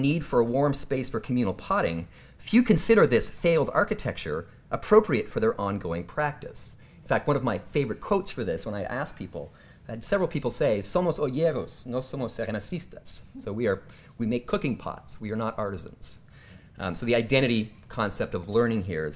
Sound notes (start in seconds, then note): 10.8 speaking spanish